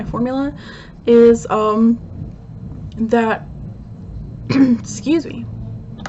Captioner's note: clearing throat